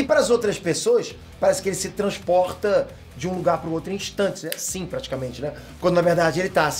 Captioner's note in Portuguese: estalo